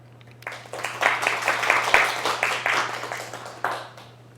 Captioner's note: applause